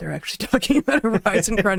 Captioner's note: laughing